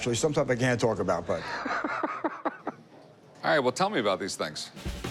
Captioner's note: laughs